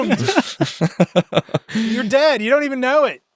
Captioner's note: laughing